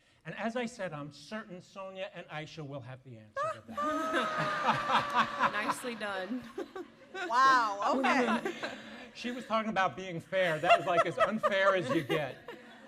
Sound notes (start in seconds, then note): 3.8 laughter